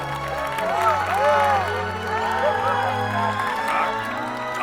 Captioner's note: crowd cheering